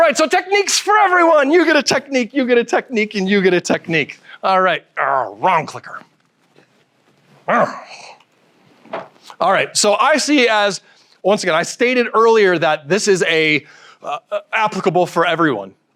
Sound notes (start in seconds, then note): 7.5 grunts